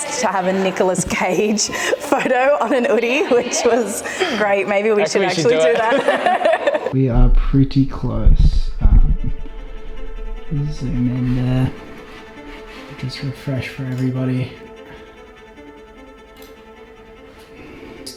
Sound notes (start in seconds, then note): 6.4 laughs; 14.8 suspensive music